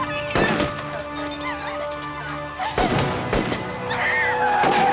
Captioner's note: rifle blasting; tires screeching